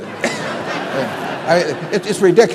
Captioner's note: laughter